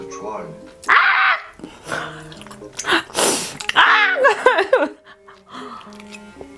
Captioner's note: screaming while watching a confession scene in the drama